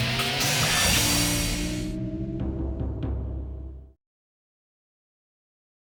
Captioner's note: logo whooshes; audio thudding